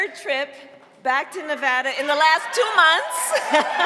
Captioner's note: cheering and applause